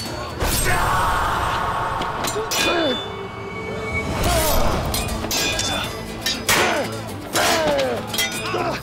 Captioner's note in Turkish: Dövüş sesleri